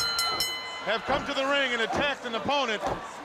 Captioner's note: bell ringing